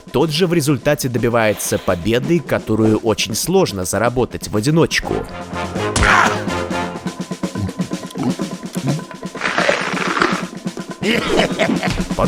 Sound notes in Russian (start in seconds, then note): 7.4 звуки поедания; 11.0 смешок